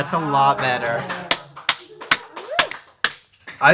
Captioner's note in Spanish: aplausos